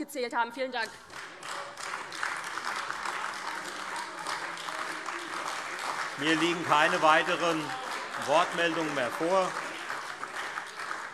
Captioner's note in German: Beifall AfD